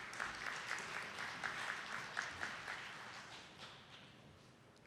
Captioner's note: attendees clapping